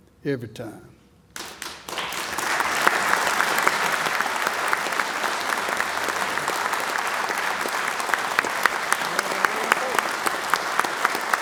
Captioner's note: applause